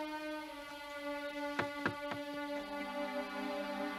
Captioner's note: knock at door